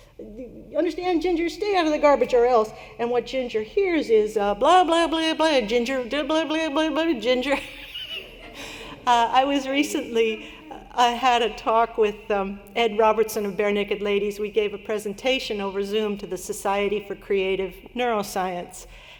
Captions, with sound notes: Understand, Ginger? Stay out of the garbage, or else." And what Ginger hears is, blah, blah, blah, Ginger, blah, blah, blah, Ginger. [LAUGHTER] I had a talk with Ed Robertson of Barenaked Ladies. We gave a presentation over Zoom to the Society for Creative Neuroscience,